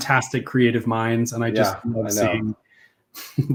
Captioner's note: laughs